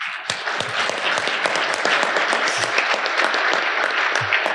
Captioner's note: audience applauding